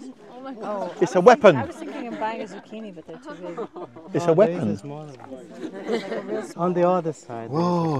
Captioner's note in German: einige Leute sprechen